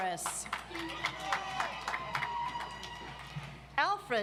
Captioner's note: audience applauds